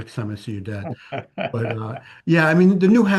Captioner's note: laughs